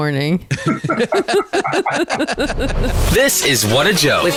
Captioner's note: laughter